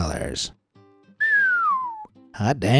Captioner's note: whistles